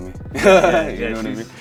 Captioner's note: laughs